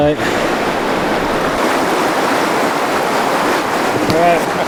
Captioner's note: water splashing